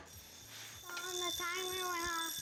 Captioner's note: bell rings